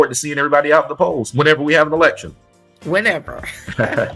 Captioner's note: chuckles